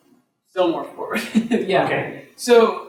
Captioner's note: laughs